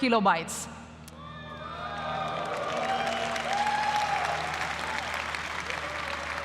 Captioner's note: applause